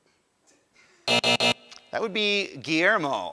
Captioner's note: buzzer